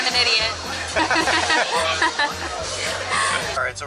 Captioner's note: laughs